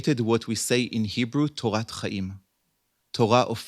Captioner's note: hebrew